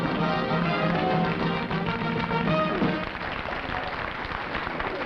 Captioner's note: applause